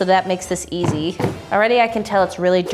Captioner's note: banging on suitcase